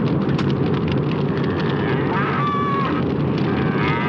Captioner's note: cow MOOING